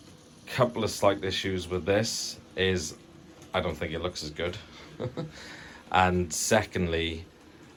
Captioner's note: laughs nervously